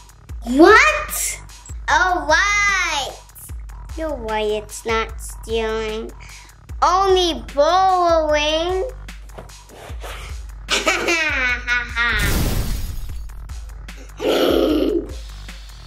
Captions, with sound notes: What! All right! No way it's not stealing Only borrowing! [laughing]